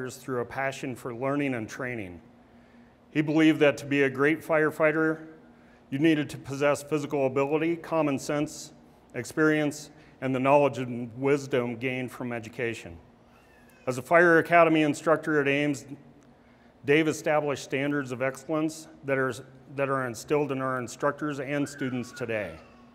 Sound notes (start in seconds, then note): none